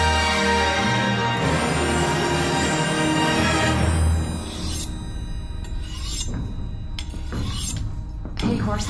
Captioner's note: sound of someone sharpening a knife